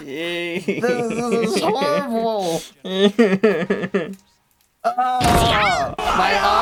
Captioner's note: breaksdown into tears of pain